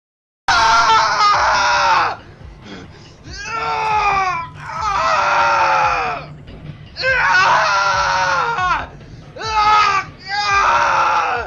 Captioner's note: screaming